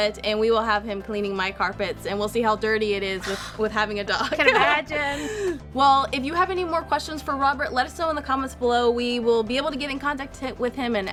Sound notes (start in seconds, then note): 4.2 laughs; 5.0 gasps